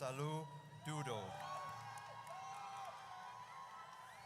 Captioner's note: audience cheers